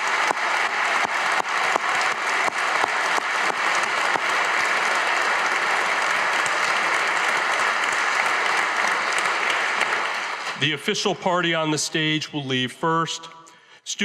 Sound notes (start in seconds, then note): 1.3 audience applauding